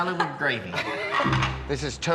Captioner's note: laughs